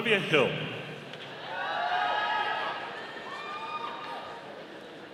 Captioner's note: audience cheering